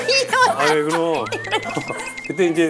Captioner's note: cry